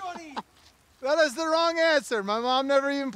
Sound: laughs

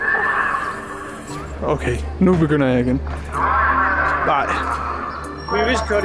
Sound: loudspeaker

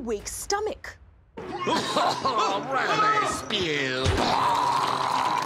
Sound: coughs; vomits

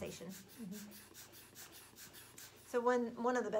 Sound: air bulb puffing

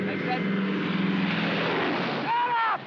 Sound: aircraft roars

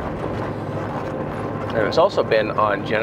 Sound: truck engine purring

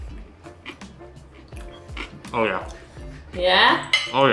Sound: chewing

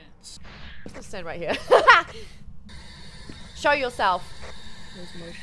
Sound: laugh

